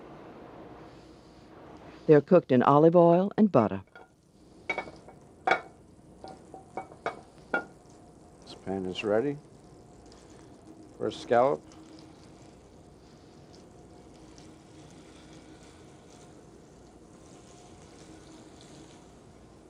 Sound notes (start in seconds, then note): 2.6 voiceover; 9.9 oil sizzles